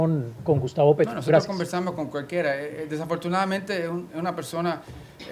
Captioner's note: speaking spanish